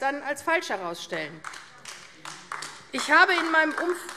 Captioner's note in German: Beifall AfD